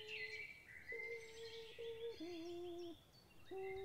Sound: birdsong

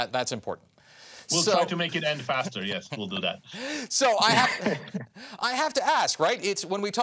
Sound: laughter

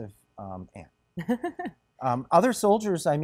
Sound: chuckles

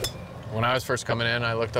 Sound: club hitting ball

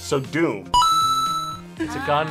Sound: bell rings; buzzer rings

